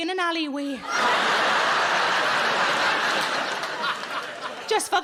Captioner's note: audience laughing